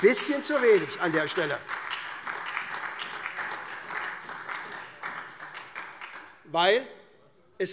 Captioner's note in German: Beifall SPD, Freie Demokraten und vereinzelt AfD